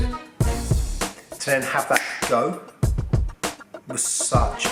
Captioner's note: snaps